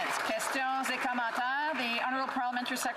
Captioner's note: some Applause